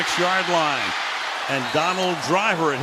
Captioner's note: cheering